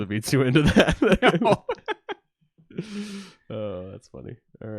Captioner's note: laughs